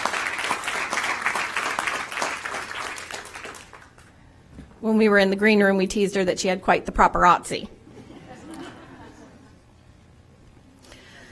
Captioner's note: applause